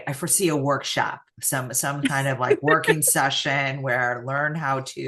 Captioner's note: laughs